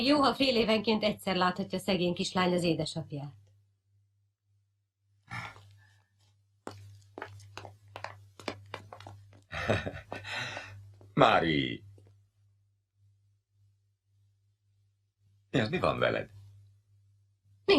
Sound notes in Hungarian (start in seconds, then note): 9.5 Liszt kuncogása